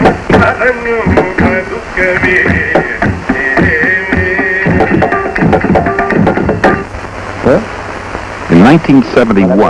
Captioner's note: chanting